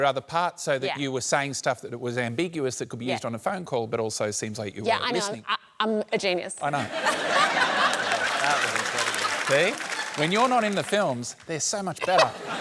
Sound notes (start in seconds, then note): 6.7 laughter